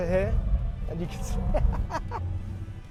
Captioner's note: laughs